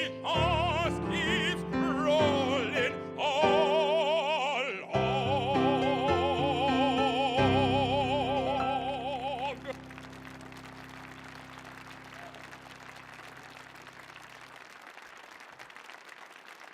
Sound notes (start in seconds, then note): 9.7 audience applauding; 9.7 people cheering